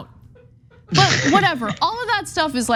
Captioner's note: laugh